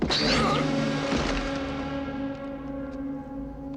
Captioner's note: hissing; grunts